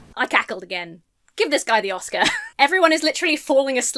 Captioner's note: chuckles